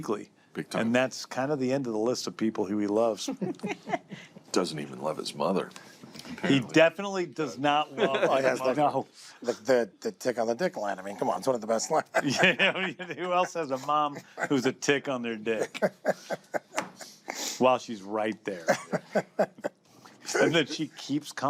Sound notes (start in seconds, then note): 3.2 chuckles; 12.0 laughter; 15.4 laughs; 18.5 continues laughing